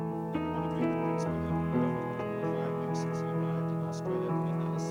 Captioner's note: light thoughtful music continues; news reporter speaking faintly